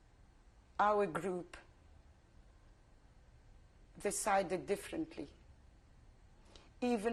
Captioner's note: pauses for 3 seconds